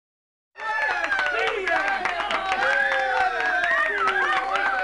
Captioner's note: group applauds and cheers